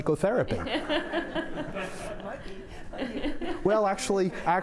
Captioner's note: laughing